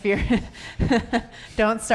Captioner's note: chuckles